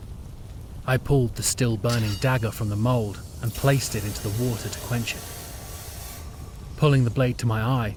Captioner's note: SFX hissing and bubbling